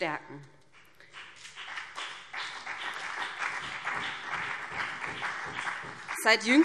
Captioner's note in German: Beifall BÜNDNIS 90/DIE GRÜNEN